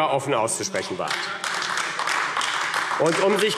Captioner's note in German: Beifall AfD